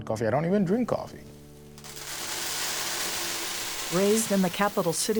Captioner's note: grain pouring